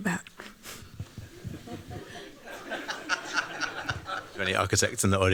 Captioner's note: laughter